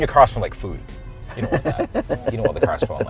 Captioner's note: laughs